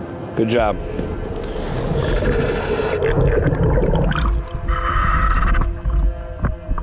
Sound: ominous music continues; mouthpiece hissing

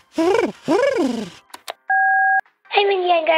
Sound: soundbite of beep

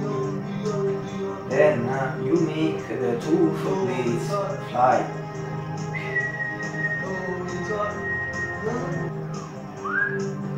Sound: whistle

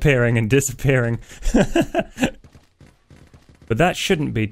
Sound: laughs

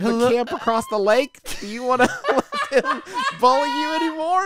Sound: laughs

